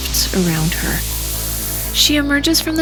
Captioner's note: whooshing